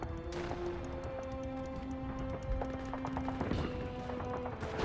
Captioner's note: small explosions